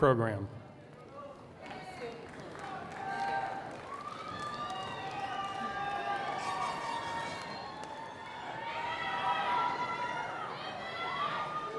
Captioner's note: cheering